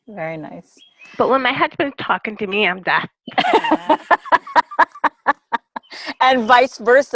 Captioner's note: laughter